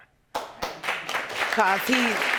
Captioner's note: audience applauding